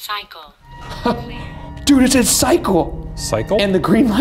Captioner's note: chuckling